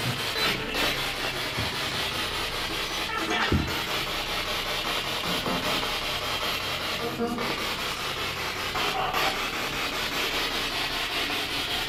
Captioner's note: radio noise from the spirit box